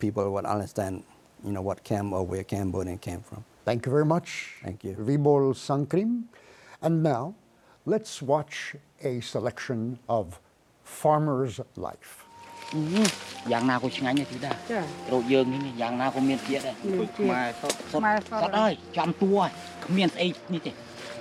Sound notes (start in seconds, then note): 13.3 speaking Khmer